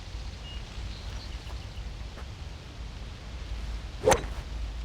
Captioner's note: birds chirping; ball thuds; club swishes